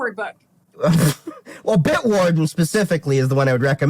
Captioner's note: laugh